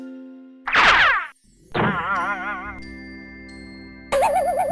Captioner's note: silly sound effects